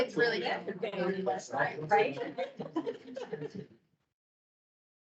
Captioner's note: indistinct chatter